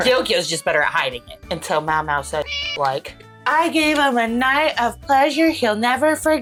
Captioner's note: meow